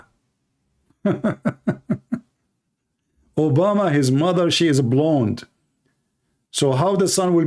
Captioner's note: Ketawa